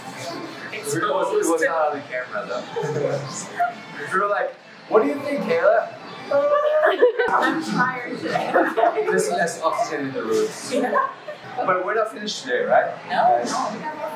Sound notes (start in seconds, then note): 6.7 yawn